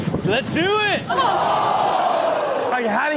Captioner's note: audience exclaims